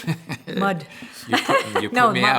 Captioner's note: laughter